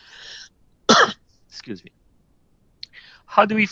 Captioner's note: coughs